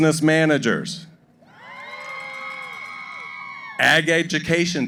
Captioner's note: cheering